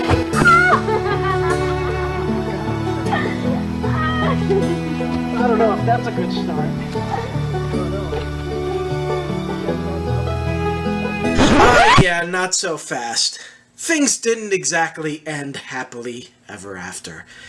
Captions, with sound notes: [Laughing] [record scratch] Yeah. Not so fast. Things didn't exactly end happily ever after.